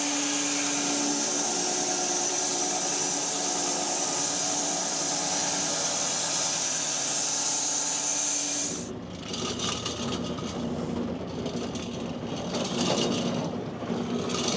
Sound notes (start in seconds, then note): 9.3 saw rattling